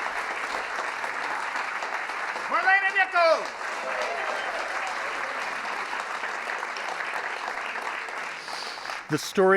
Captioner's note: applause; applause